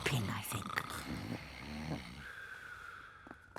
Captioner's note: snoring